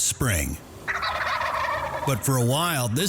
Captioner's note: turkeys gobbling